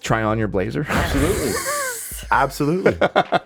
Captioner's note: all chuckling